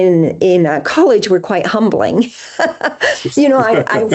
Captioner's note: laughs